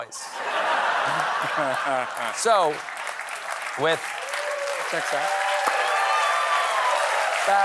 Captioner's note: laughter